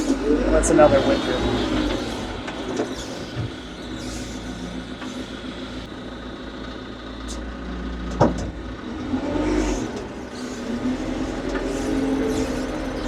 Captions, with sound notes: What's another winter? (machinery rumbles)